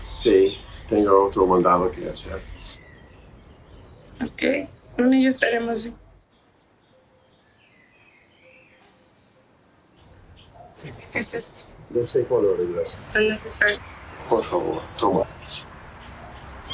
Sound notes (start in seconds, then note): 0.1 James speaking in Spanish; 3.9 woman speaking in Spanish; 11.7 James speaking in Spanish; 12.9 woman speaking in Spanish; 13.9 James speaking in Spanish